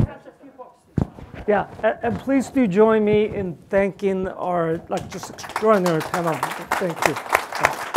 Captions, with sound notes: - Yeah, and please do join me in thanking our just extraordinary panel. Thank you (applause).